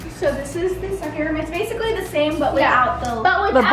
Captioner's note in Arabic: يضحك